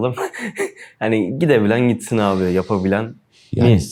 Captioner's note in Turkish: kahkaha